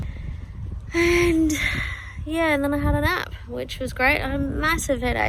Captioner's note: sighing